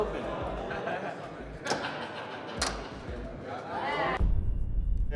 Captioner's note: men laughing